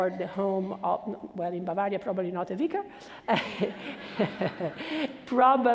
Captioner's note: laughs